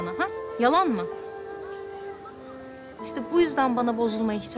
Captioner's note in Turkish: Kuş cıvıltısı